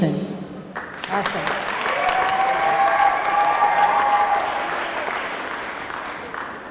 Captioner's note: audience clapping; audience cheering